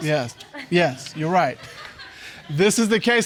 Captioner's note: audience laughs